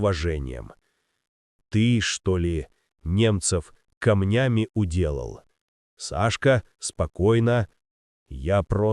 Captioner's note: calmly